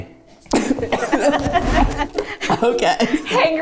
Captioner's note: everyone laughs